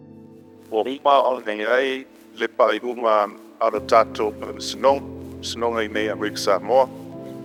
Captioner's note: speaking in foreign language